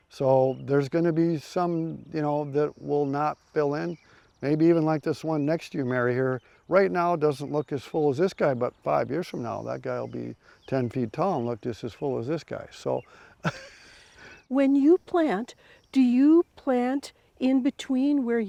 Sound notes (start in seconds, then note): 13.3 chuckles